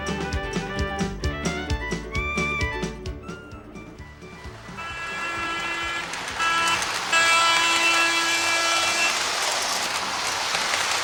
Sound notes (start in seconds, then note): 4.6 horn blowing